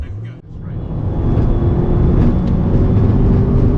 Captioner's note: engine rumbling